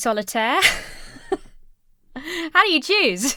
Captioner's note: wheezes